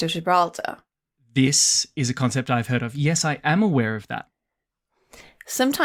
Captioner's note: gasps